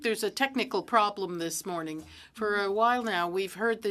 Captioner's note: speaking French